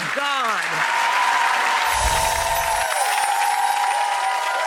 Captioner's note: audience applause